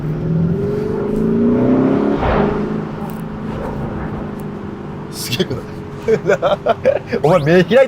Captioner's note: Akrapovič sound